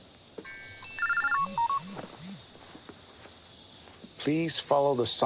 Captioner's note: cellphones ringing